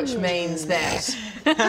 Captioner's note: snort